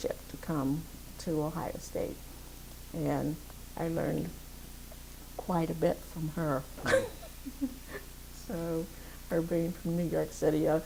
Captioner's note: laughs